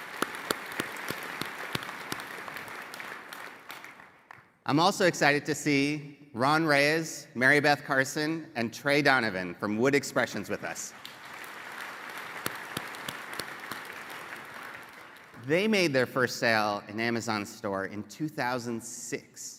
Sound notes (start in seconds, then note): 6.3 applause